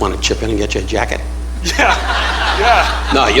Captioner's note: laughing